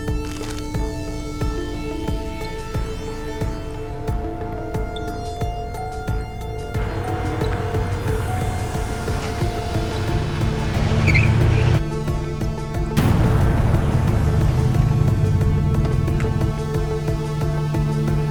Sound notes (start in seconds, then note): 10.6 tires screeching; 12.5 intense music